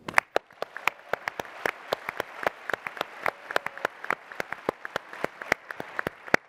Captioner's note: applause